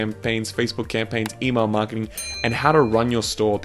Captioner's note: bell dinging